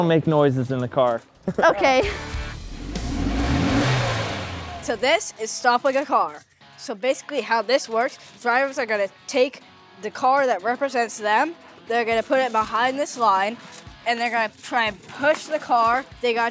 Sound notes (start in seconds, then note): 1.9 car engine revving